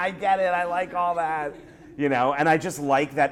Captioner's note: laughter